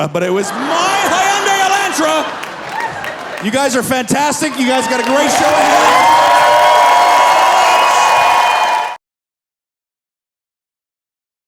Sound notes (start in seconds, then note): 0.3 audience laughing; 6.1 audience cheering